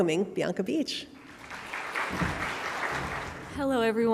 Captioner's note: audience clapping